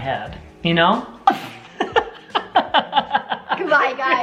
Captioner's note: laughing